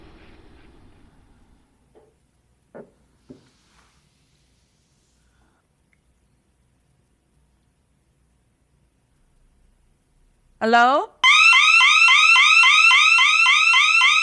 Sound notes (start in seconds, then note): 3.2 footsteps thumping; 11.2 siren blaring